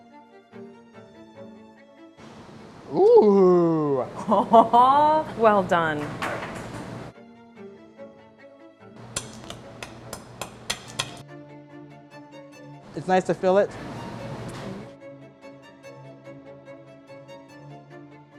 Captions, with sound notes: Oh! - Well done. (tapping) - It's nice to fill it. (classical music)